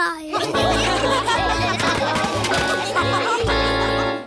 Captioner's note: laughter